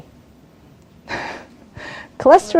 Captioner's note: chuckles